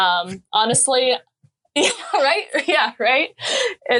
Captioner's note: laughing